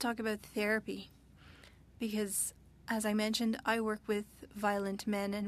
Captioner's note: speaking French